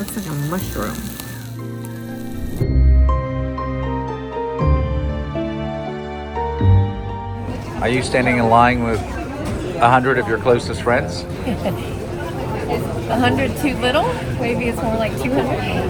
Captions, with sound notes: Looks like a mushroom. (upbeat music) Are you standing in line with 100 of your closest friends? (laughing) 100 too little, maybe it's more like 200.